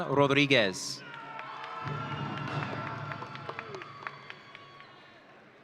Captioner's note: audience cheering